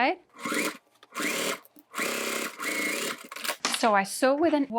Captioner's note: machine whirring